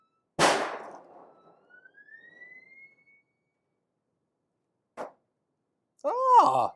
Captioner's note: loud bang - Theremin sound - muffled bang